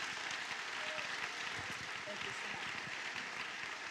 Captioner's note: applause